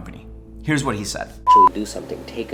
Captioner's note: beep